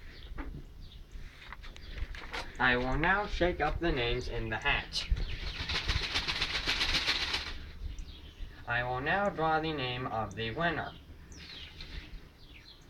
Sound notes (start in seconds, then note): 0.0 sounds of paper rattling; 4.6 sounds of vigorous paper shakking; 10.9 paper rustling